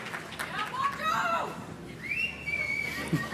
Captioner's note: graduate cheers; graduate whistles